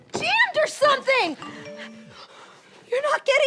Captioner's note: phone vibrates